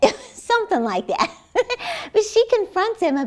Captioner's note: laughs